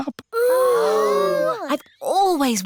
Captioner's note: all gasp